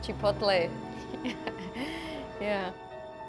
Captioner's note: laughing